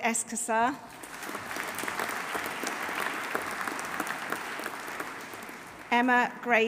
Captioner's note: audience applauding; audience cheering